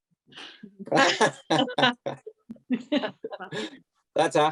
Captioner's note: laughter